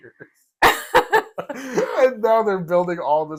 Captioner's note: laugh